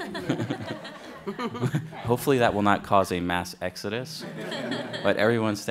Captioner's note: laughter